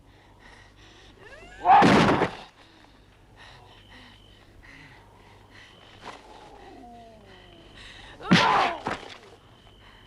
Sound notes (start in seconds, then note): 1.7 Hundra grunts; 1.7 Torente shouts; 3.3 Hundra panting; 8.2 Hundra grunts; 8.3 Torente groans